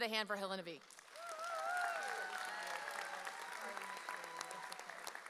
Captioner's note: audience cheers